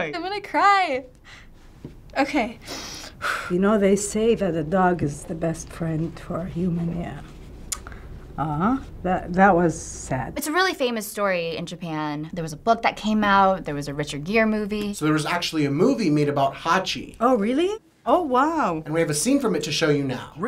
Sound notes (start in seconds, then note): 2.6 exhales shakily; 7.7 clicks tongue